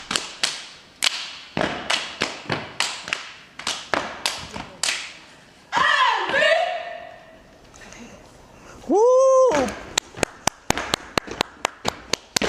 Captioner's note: rhythmic clapping and stomping